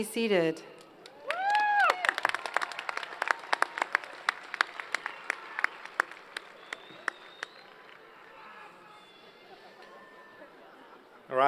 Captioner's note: applause